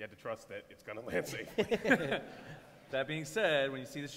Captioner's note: laughter